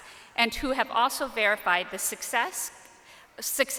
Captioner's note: none